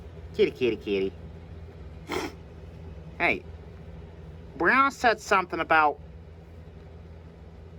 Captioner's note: clears her nose